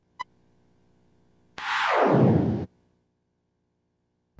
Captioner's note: whoosh